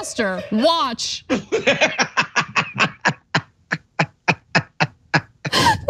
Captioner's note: laugh